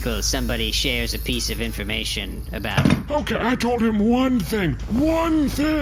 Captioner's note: dropping tool